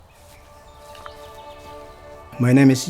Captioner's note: birds chirping; gentle music